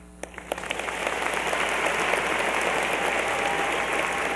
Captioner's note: applause and cheering